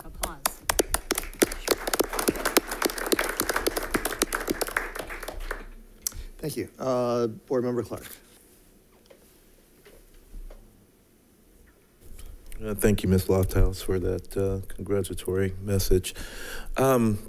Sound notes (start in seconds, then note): 0.0 people applaud